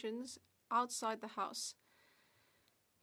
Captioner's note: speaking French